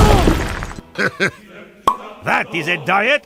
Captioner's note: Heavy chuckles as Spy pops his head out of the Box